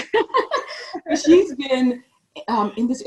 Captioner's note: laughs